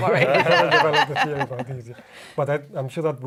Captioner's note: laughs